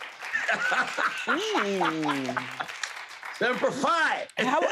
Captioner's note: audience applauds; laughs